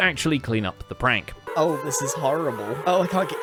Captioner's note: many happy ghast noises